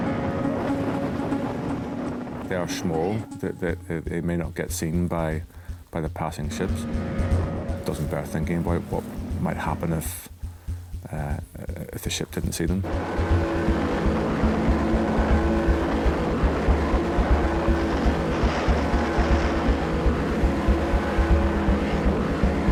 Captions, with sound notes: (dramatic music continues) (motor hums) - They are small that they may not get seen by the passing ships. Doesn't bear thinking about what might happen if the ship didn't see them. (engine races) (dramatic music continues)